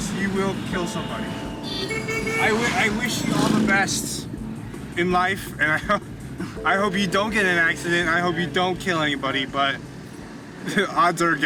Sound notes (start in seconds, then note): 2.0 horns blaring